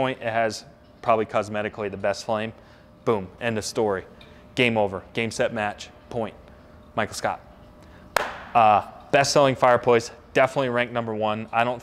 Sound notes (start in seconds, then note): 8.1 claps